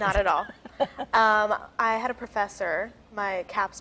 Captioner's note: laughs